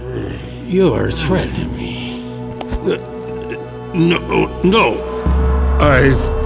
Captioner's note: sounds of struggle, being restrained